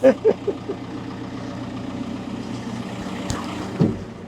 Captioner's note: laughs; lift whirring